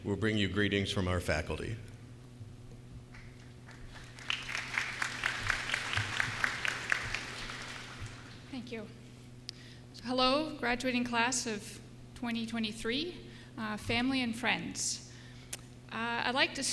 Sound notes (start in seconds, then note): 4.9 applause